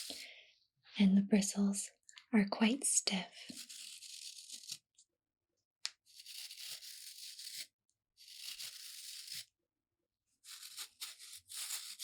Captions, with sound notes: and the bristles are quite stiff (bristles brushing)